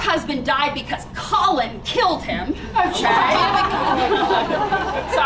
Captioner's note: laughter